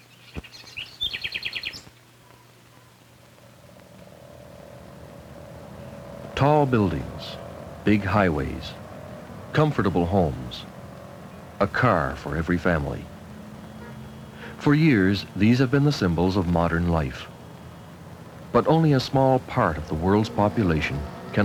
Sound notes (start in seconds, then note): 2.6 highway traffic engine sounds